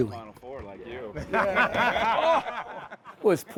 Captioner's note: laughs